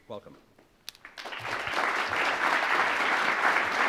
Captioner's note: applause